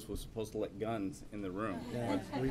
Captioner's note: laughter